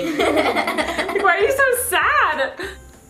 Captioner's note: laughs